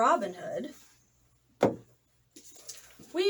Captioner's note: thud